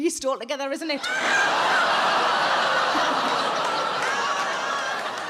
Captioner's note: crowd laughing